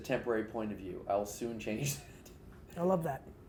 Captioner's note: laughs